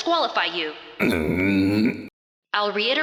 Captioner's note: Torashiro Grumbles